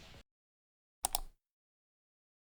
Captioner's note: click